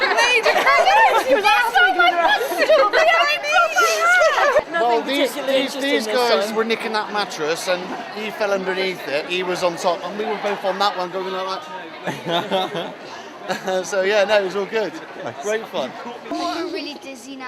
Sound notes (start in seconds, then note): 0.0 laughter